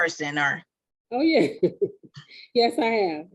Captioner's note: laughing